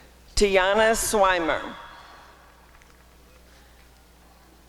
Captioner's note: applause and cheering